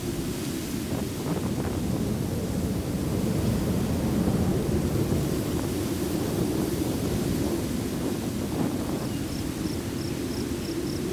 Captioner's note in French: souffle du vent